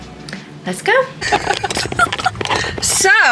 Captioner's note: laughing